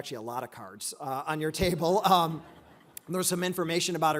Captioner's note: laughing